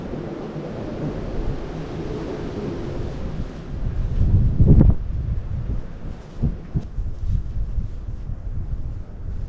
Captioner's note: wind